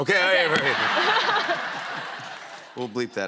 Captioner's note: laughter